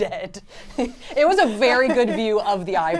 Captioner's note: laughs